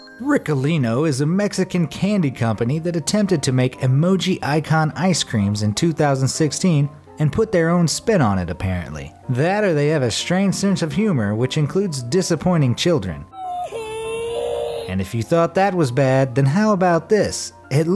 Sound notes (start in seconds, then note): 13.3 crying